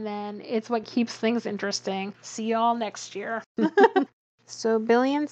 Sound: laughs

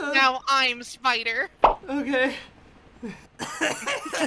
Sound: pop

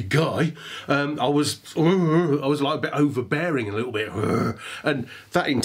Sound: growls

